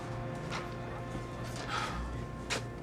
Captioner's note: sighs